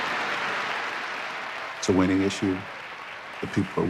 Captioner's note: applause